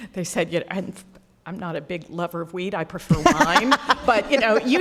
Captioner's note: laughter